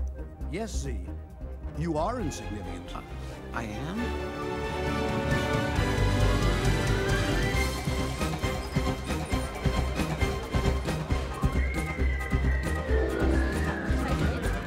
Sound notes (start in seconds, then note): 11.4 whistling